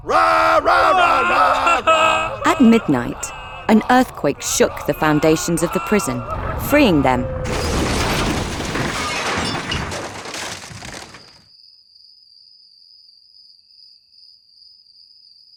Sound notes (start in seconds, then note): 0.3 both roaring hymns; 7.3 prison crashing; 11.5 crickets chirping